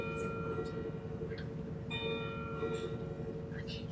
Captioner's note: bells chime